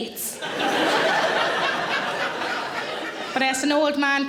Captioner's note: audience laughing